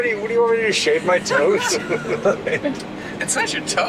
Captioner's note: laughs